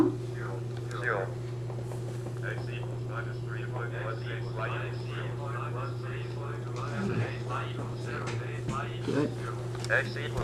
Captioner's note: multiple calculator voices